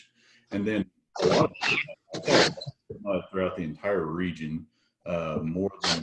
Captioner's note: audio is choppy